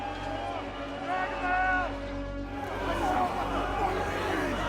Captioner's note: crowd yelling